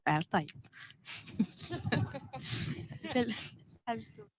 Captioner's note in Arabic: ضحك